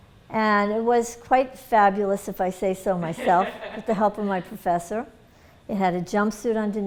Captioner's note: laughter